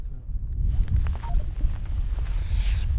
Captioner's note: radio beeps